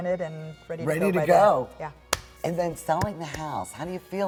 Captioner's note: hands clap